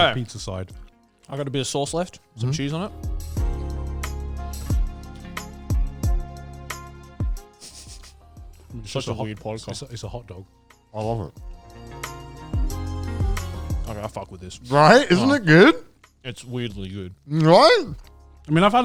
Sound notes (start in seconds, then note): 2.2 relaxing music; 7.8 chuckles; 12.0 relaxing music